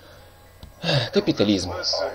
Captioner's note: sigh